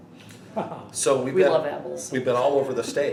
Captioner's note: interviewer laughing; laughing